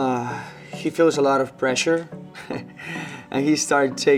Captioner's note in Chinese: 呵呵